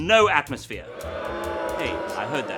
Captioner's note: crowd boos